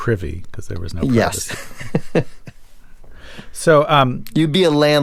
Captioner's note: laughter